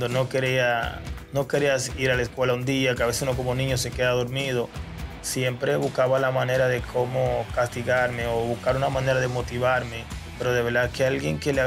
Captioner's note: spanish